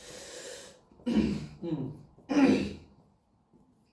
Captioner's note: clears throat